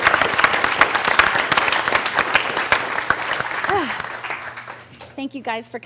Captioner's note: applause; sighs